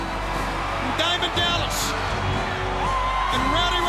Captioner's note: crowd cheering